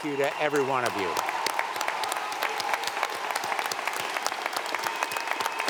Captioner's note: audience applauding